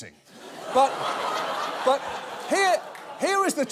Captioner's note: audience laughs